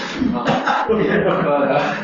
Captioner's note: laughter